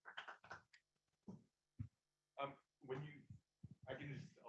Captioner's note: applause